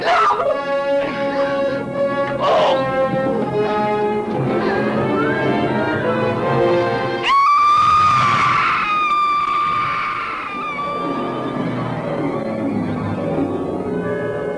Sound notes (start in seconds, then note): 0.0 Carla screaming; 2.4 soldier groans; 7.2 Carla screaming; 11.6 ominous music